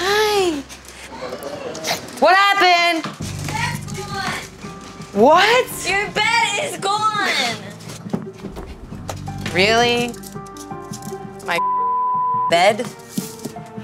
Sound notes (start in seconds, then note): 8.3 footsteps